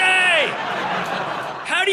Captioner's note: audience laughing